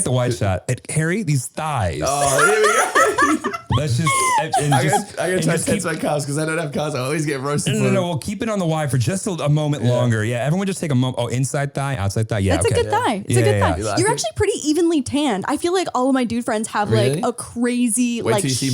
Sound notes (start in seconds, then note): 2.0 laughing